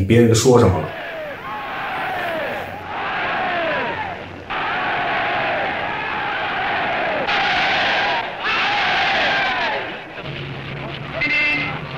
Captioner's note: cheers